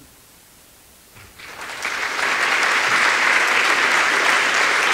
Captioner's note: applause